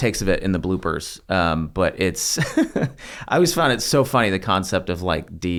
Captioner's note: laugh